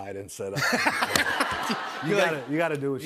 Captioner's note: laughter